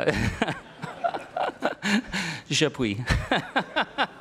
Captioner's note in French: rires